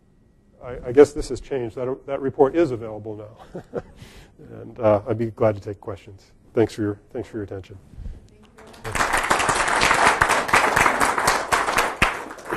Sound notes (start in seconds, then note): 3.4 laughs; 8.6 audience applaud